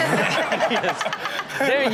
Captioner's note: Chanel and audience laughing